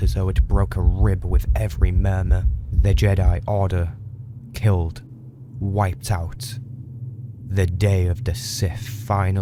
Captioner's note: heart noise